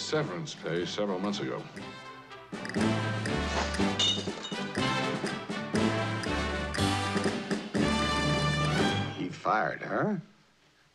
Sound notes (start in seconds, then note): 3.9 glass smashing